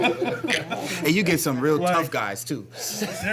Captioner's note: laughter